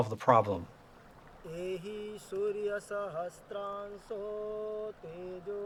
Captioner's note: man chanting